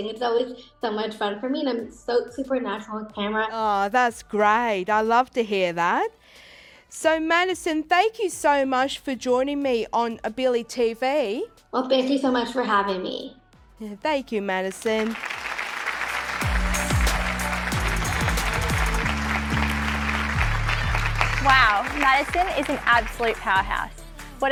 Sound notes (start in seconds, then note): 14.7 applause